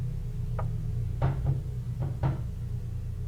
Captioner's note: banging